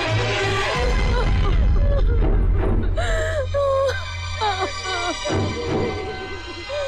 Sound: wailing

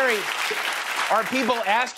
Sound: cheers and applause

